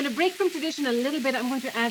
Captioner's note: sizzling